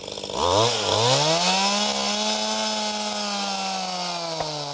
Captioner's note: chainsaw revving